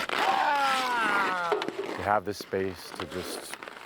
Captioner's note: yelling